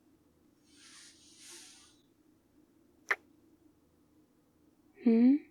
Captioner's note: kiss